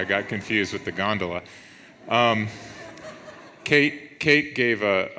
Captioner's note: audience laughs